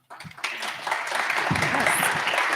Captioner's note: crowd applauds